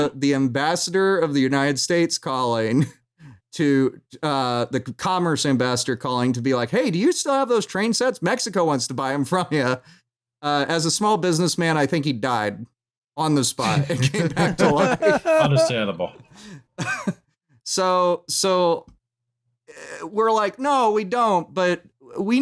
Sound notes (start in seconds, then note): 13.6 laughter